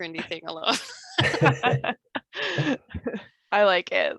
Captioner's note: laughter